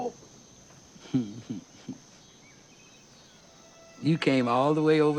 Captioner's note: Lilly chuckles